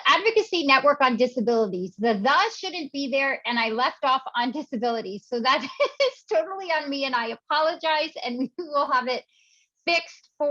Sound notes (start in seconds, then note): 5.7 laughs